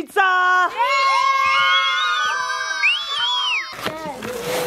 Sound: kids yell and scream

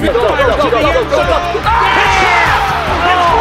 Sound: cheering

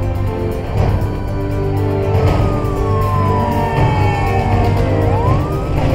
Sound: sirens wailing and car horns honking

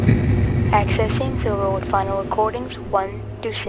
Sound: automated voice

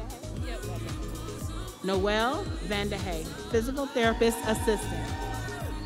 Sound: audience applauding

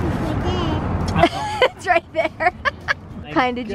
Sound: laughing

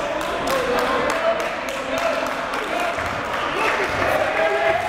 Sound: applauding and cheering

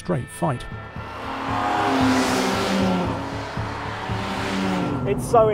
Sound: car engines rasping

